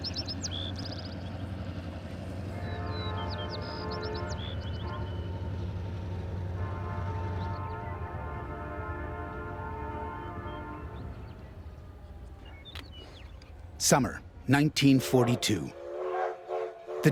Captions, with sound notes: - [Voiceover] Summer 1942. The Devil's Brigade arrives in Helena, Montana.